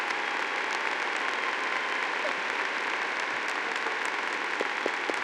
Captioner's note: audience applauding